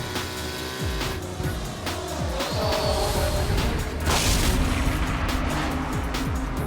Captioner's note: energetic expectant music; wings flapping; motors buzzing; explosion bursting